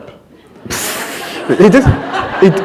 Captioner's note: laughter